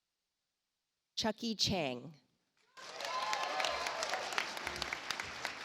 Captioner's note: audience applauds